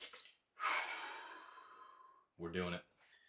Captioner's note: exhales